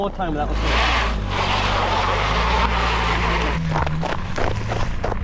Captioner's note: tires sputtering